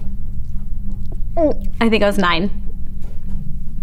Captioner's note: gulps